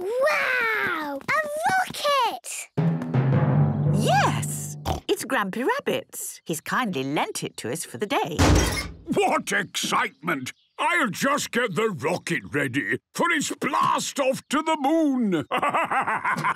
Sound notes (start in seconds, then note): 8.4 metallic door bursting